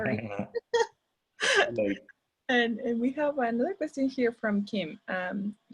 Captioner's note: chuckles